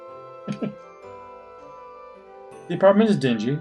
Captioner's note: chuckles